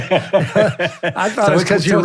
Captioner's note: laughing